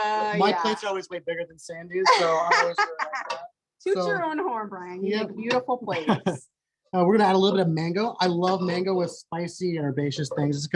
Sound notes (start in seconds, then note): 2.0 laughs; 6.0 laughs